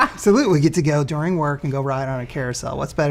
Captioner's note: laughs